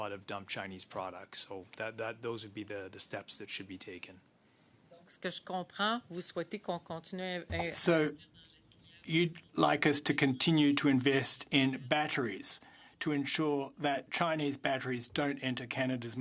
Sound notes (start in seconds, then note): 9.9 speaking French